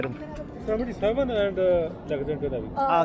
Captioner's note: hindi?